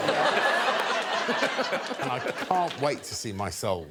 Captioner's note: laughter